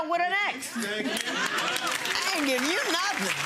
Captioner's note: audience applauds